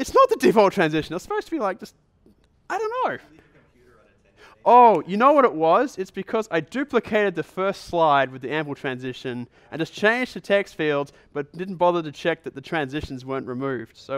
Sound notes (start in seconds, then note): 3.7 voiceover